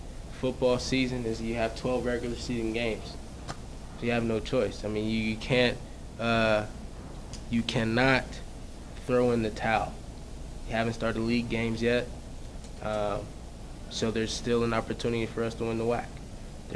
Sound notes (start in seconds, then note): none